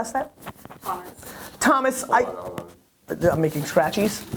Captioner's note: static